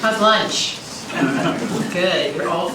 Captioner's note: laughter